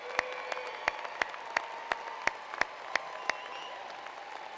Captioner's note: cheers and applause